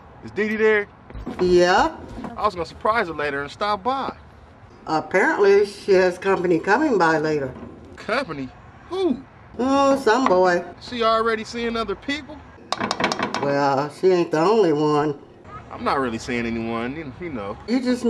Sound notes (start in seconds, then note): none